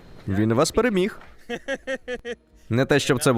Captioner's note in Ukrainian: Дерек сміється